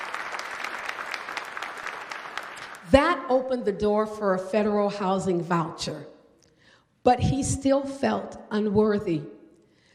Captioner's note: applause